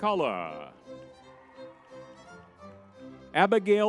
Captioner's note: lively music; crowd cheering